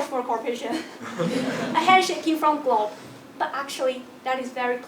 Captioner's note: laugh